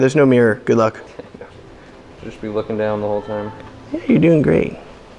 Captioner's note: laughs